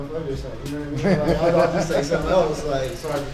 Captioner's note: interviewer laughs